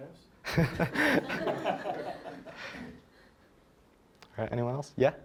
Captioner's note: all laughing